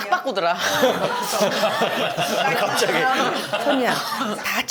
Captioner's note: chuckles